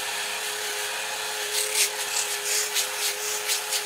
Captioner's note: hissing